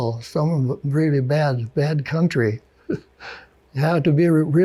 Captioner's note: chuckles